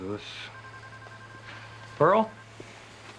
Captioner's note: phone ringing